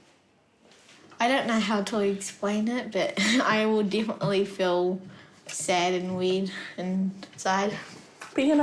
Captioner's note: chuckles